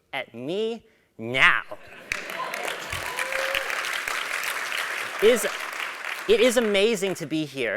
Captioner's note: applause